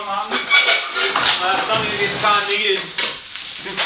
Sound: squeaking

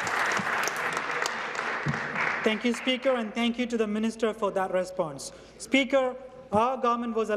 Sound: applause

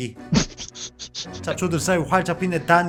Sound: laughter

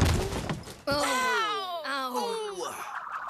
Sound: all gasp

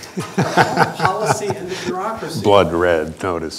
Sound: laughter

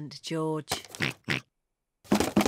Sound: oinks; rattles

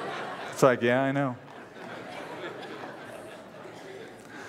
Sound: laughter

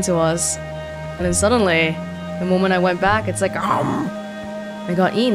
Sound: grawr

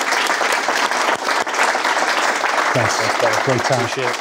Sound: audience clapping

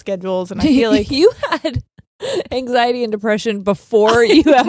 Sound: chuckles

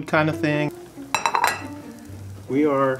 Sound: plate clatters

